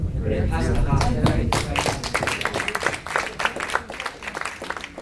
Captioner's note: audience applauds